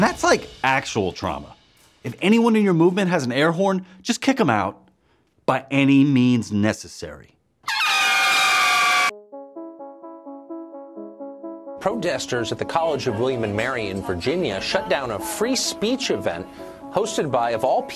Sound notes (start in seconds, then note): 5.9 airhorns